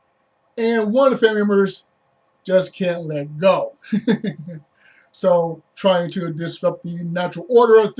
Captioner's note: laughs